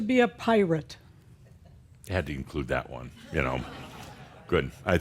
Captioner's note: a few chuckles